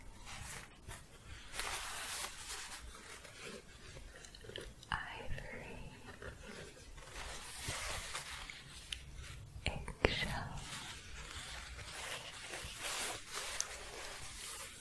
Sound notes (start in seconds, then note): 0.0 shuffling; 6.1 scratching